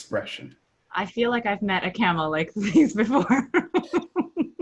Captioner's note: laughs